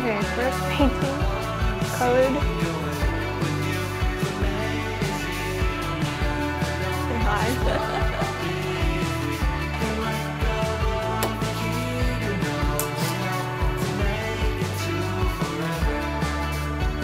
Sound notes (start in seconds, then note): 7.4 caller laughing